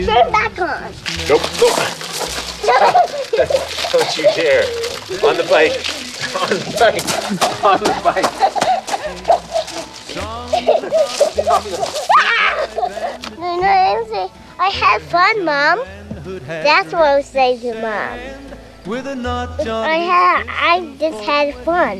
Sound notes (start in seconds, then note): 2.2 laughs; 2.8 laughing; 7.1 laughing; 7.8 laughs; 9.4 laughing